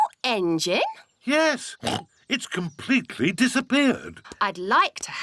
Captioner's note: oinks